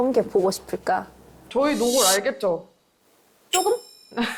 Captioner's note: fishing-for-credit sound effect